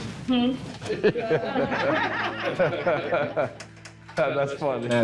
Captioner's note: everyone laughing